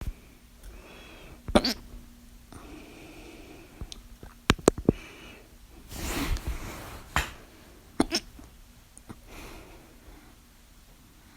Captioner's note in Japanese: しゃっくりが2回あります/ は食べ過ぎでしゃっくりが2回あります。